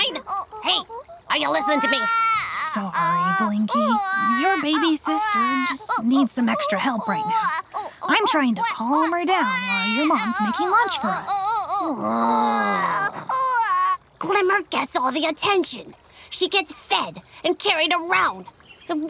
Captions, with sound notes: Sine. Hey, are you listening to me? - Sorry, Blinky. Your baby sister just needs some extra help right now. I'm trying to calm her down while your mom's making lunch for us. (Glimmer crying) (Blinky sighs) - Glimmer gets all the attention. She gets fed and carried around.